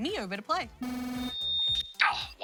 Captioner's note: computer trills, screeches